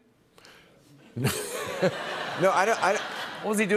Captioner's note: laughter